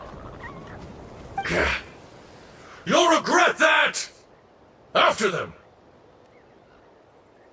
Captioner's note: scoff